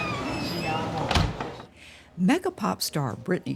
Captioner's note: door creaking; door thudding